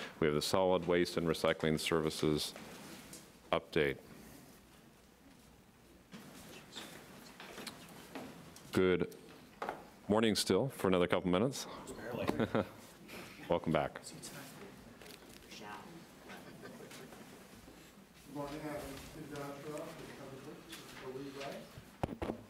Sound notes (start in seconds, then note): 12.2 chuckles